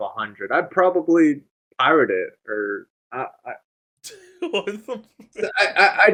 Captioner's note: laughs